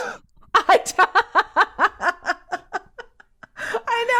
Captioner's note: person laughing